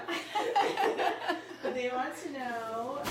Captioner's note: laughing